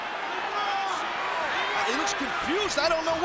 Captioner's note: audience yelling